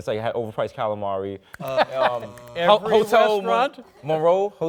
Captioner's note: laughs